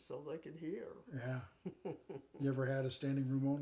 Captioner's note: chuckling